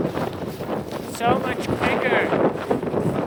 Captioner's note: wind